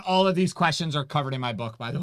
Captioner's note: none